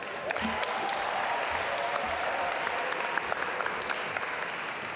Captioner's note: audience applaud